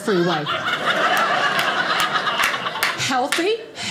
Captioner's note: audience laughing